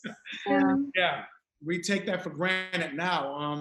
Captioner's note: laughing